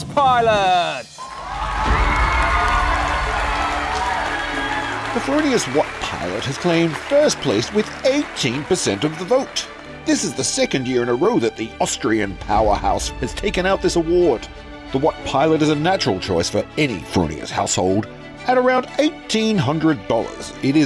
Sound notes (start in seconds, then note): 1.3 audience applauding; 1.3 audience cheering